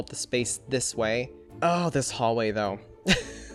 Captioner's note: chuckles